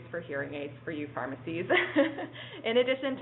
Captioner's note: laughs